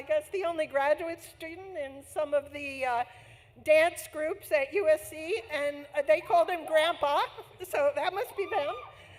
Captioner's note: laughs